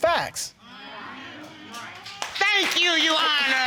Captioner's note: audience exclaims